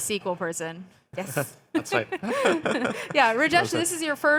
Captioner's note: laughs